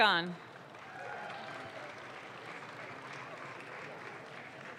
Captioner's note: audience claps